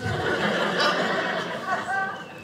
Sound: audience laughing

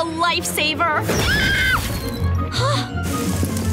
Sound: screaming

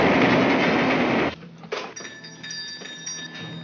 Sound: bell rings

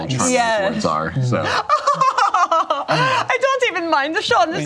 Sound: laughs; imitates German accent

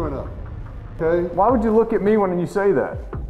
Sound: voiceover

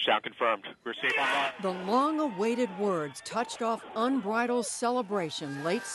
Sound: cheering and applause

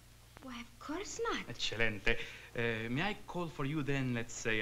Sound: speaking italian

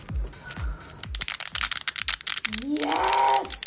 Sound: glowsticks snapping

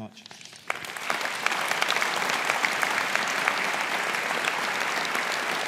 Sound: audience applauds

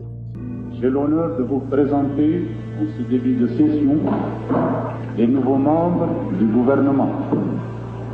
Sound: Ben Bella in French

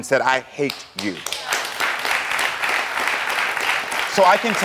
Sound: audience applauds

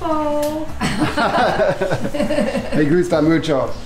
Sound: both laugh

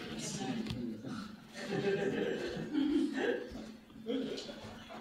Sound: laughter

